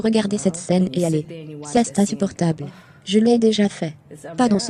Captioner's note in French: soupire